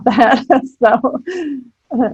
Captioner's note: chuckling